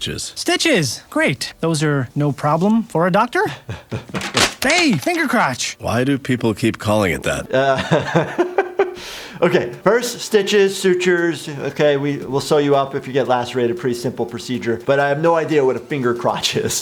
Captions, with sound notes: - Stitches, great. Those are no problem for a doctor. (chuckles) Hey, finger crotch. - Why do people keep calling it that? (laughing) - Okay, first, stitches, sutures, okay. We will sew you up if you get lacerated, pretty simple procedure, but I have no idea what a finger crotch is.